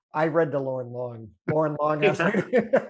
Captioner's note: laughs